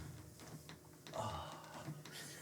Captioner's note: sigh